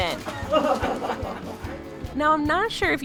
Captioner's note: laughter